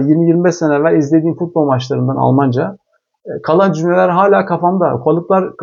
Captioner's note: in German